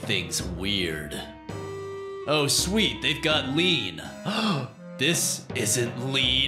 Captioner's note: gasp